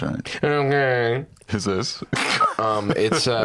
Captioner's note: laughs